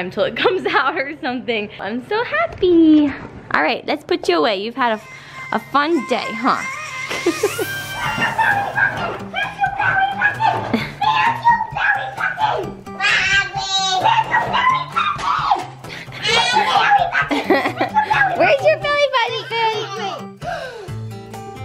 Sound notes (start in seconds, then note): 6.8 upbeat music; 13.0 babbles